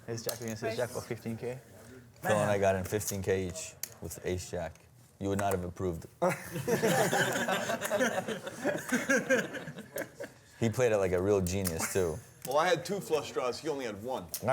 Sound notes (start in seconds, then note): 6.2 laughter